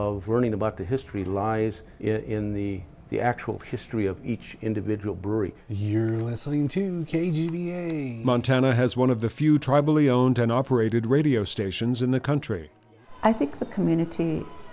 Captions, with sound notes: but the real value of learning about the history lies in the actual history of each individual brewery. - You're listening to KGVA. - [Voiceover] Montana has one of the few tribally owned and operated radio stations in the country.